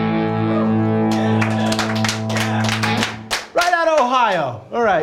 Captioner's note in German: applaus